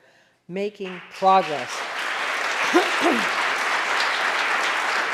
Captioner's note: audience applauding